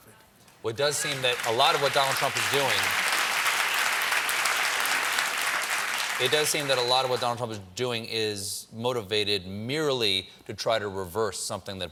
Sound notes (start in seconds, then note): 0.8 applause